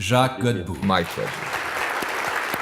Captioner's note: applause